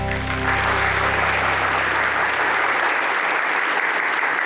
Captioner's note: applause